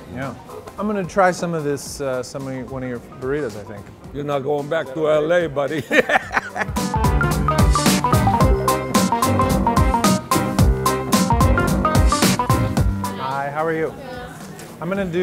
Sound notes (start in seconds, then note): 5.8 both laugh; 6.9 cheerful music